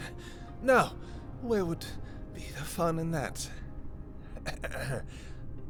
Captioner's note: struggling to breathe